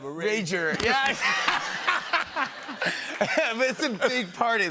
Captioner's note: laughter